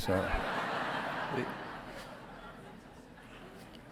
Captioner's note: audience laughing